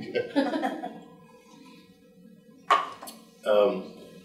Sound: group laughing

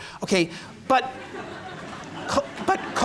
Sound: laughter

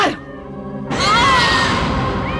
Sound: groans

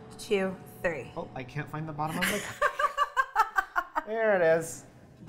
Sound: laughs

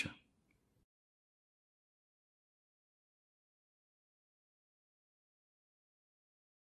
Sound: silence

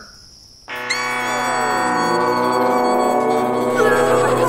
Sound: beaver screaming; beaver screaming; man screaming

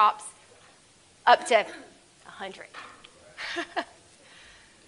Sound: laughs

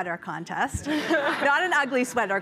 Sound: chuckles

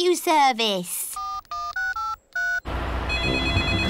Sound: dialing; phone rings

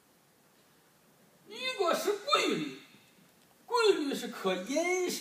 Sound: speaking foreign language

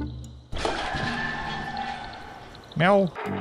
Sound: rumbling and loud screaming downstairs

